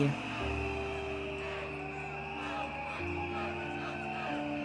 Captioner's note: crowds chanting